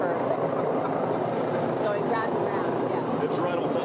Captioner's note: helicopters overhead